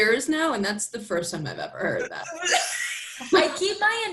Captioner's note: laughter